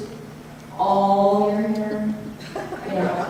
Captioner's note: audience chuckles